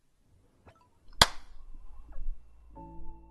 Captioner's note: single Clap